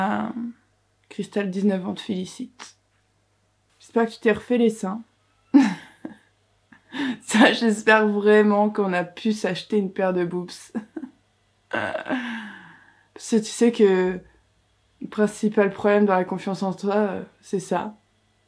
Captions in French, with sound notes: Crystal 19 ans te félicite. J'espère que tu t'es refait les seins. *rires* J'espère vraiment qu'on a pu s'acheter une paire de boobs. Parce que tu sais que... le principal problème dans la confiance en toi c'est ça